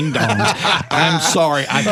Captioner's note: laughter